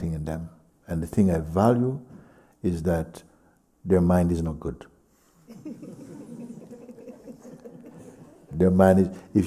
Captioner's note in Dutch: gelach